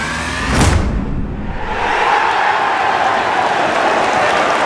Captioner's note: crowd cheers